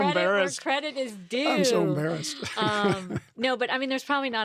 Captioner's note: laughs